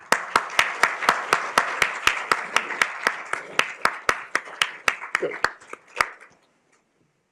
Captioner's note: applause